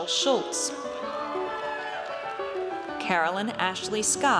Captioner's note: audience cheers